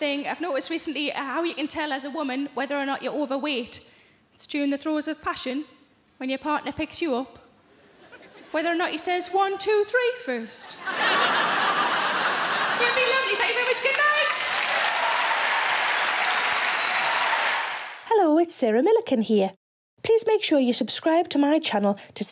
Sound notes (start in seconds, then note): 10.7 audience laughing; 15.2 audience applause